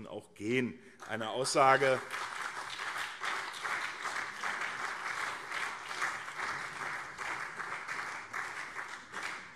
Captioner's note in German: Beifall CDU und SPD